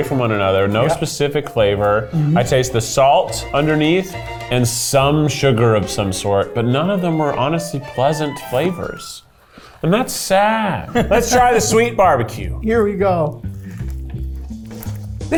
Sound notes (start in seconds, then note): 10.8 laughs; 13.8 upbeat jazz music